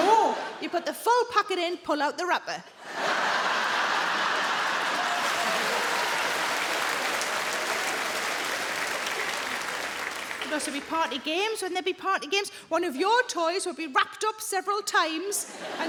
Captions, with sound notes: No, you put the full packet in, pull out the wrapper. (audience laughing) (audience clapping) There'd also be party games. Wouldn't there be party games? One of your toys would be wrapped up several times